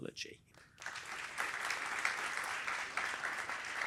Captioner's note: applause